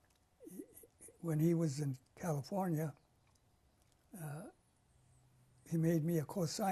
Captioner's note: pauses for 3 seconds